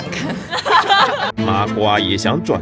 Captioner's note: laughs in occult interest